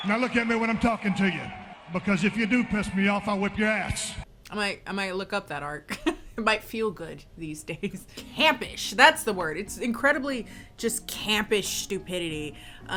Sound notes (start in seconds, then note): 5.9 chuckles